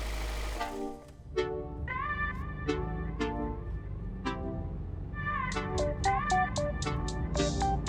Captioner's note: car accelerates